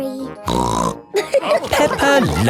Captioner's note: snorts; all laughing